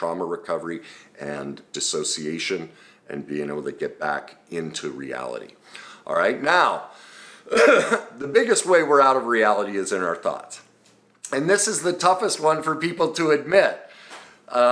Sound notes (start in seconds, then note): 7.4 coughs